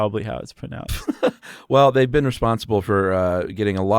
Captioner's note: chuckles